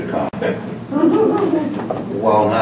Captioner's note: laughing